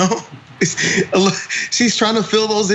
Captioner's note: laugh